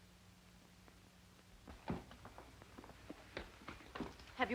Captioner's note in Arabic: أقدام تضرب بهدوء